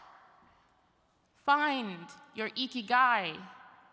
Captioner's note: speaking in Japanese